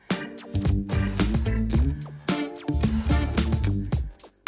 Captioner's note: exhaling loudly